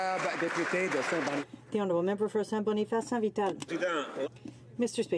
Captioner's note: some Applause